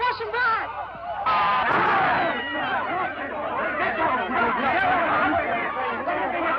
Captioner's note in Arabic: الحشد يصرخ بشكل غير واضح